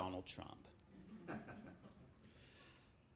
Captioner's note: laughing